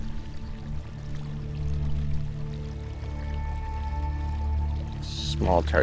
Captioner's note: water sloshing gently